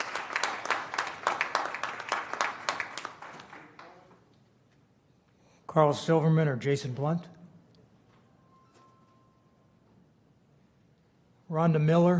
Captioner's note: applause